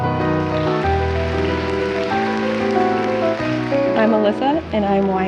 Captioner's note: audience applauds